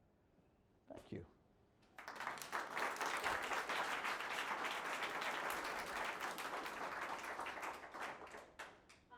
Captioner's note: applause